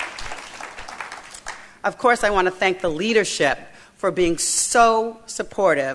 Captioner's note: applause